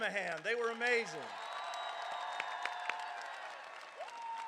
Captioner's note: crowd cheering